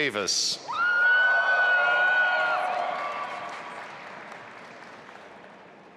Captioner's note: audience applauding and cheering